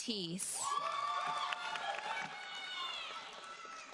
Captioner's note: audience cheers and applauds